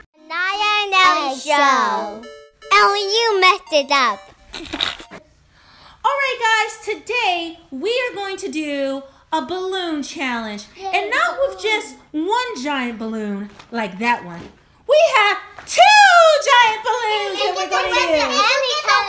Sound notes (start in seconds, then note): 4.6 snickering